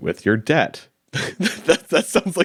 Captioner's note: chuckling